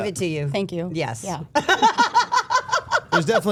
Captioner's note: Steph laughing